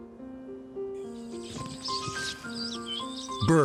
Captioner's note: birds twittering